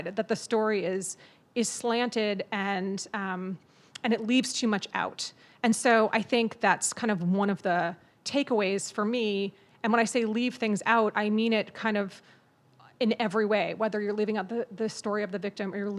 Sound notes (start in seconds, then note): none